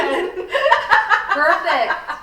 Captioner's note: all laughing